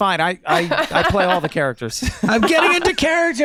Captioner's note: laughing